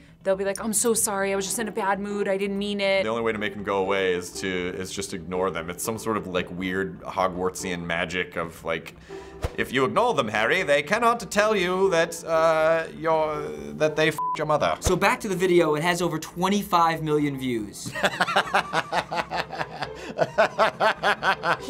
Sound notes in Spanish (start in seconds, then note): 14.1 pitido; 17.8 Risas